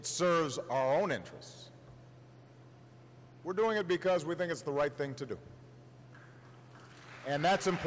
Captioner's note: applause